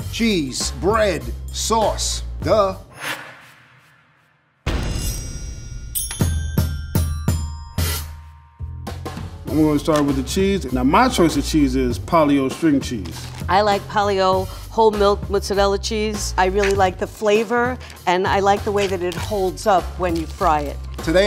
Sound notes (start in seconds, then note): 4.6 drums; 5.0 dings